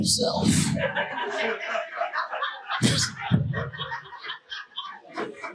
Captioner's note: audience laughing